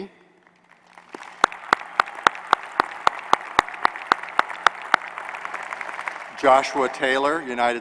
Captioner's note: applause